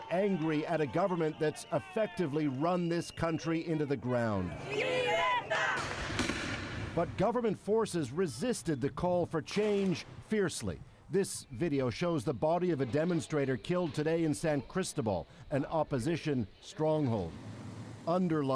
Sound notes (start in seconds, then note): 0.3 speaking Alternate Language; 2.8 cheering; 7.6 chanting